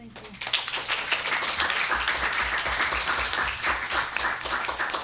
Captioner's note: applause